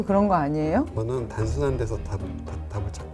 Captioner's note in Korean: 버벅대며